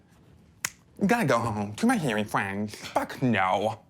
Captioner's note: snap